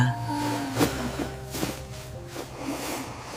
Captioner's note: sharp inhale